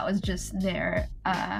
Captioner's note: none